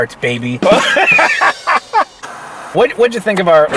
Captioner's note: laughing